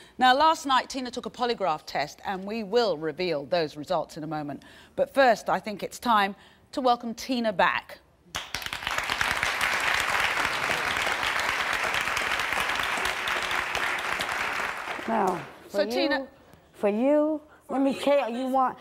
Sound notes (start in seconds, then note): 8.3 applauding